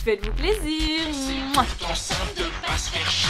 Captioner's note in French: Mouah